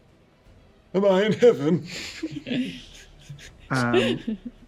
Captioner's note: old man voice